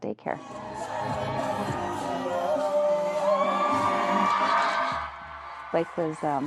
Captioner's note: upbeat music; crowd cheering